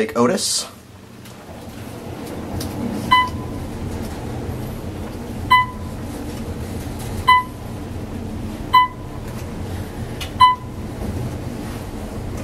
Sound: elevator hums; Otis audible signal chimes

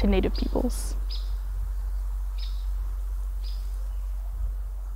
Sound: birds chirping

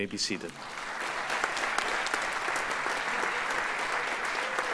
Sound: audience applauds

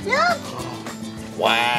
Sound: gasps

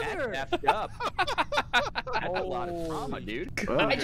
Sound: laughter

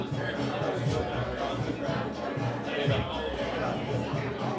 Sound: people chattering

